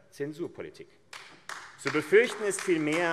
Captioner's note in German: Beifall AfD